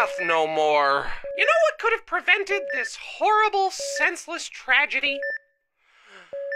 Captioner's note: breathing heavily